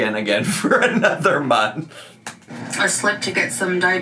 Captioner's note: laughs